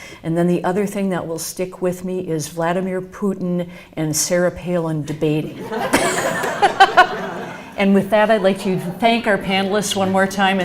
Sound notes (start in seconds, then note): 5.5 laughs